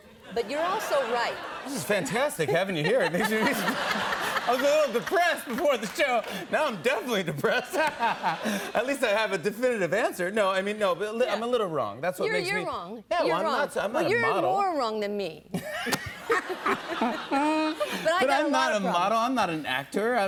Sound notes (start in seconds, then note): 7.4 laughs; 15.5 laughter